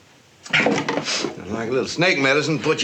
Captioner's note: sniffs